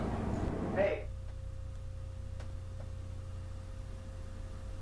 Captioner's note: static